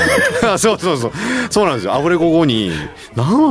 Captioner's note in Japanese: 笑い